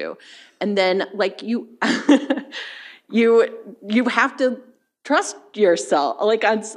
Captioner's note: chuckles